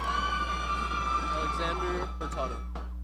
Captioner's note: audience cheering